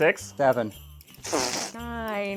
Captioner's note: quick wet fart